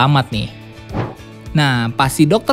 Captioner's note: transition sound